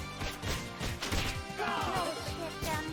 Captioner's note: punches thudding; upbeat music; swords tang; Turtles yelling